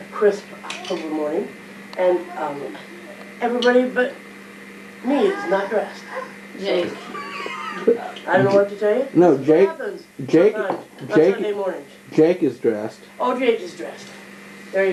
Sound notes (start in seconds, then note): 6.7 laughing